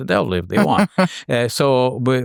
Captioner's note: chuckles